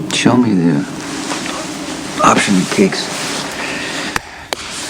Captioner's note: exhales